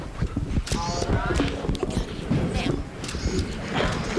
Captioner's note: people chattering